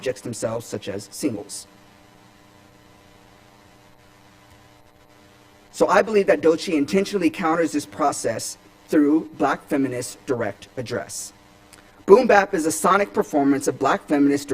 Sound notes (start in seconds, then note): none